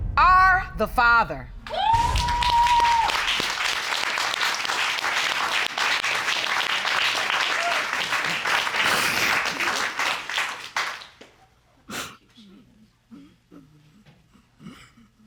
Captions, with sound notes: are the father." [cheers and applause] [sobs]